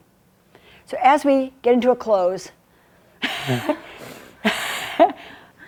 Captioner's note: giggles